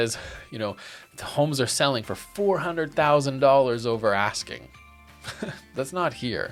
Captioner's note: laughs